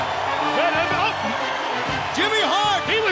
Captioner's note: crowd cheering; bell ringing